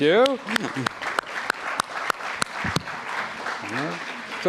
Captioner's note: applause